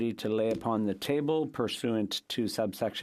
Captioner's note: speaking French